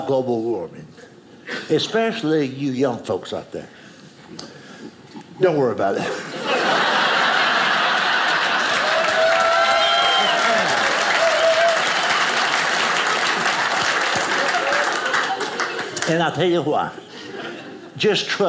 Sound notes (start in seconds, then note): 6.1 audience laughing; 8.6 audience cheers